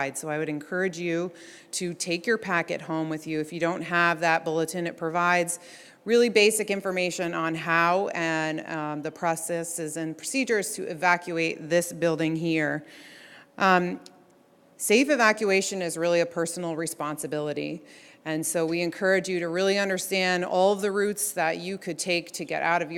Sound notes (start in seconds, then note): none